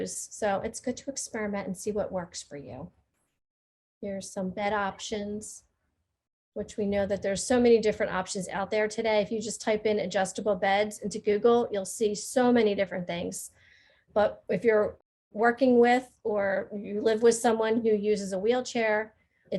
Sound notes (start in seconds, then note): none